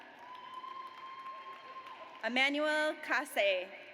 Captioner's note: audience cheers